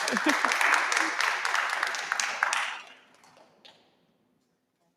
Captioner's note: audience applauding